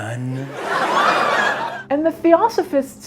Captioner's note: audience laughs